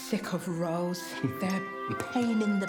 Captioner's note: Wendell laughing